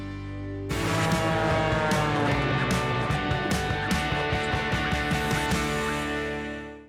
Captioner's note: upbeat rock music; plane engine roaring